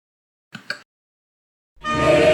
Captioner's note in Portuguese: Click